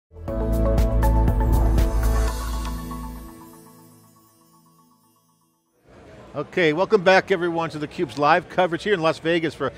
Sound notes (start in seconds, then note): 0.2 upbeat music; 1.3 air whooshing